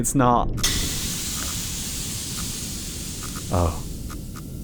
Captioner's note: pipe bursts, hisses